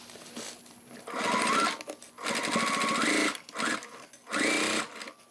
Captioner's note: sewing machine whirring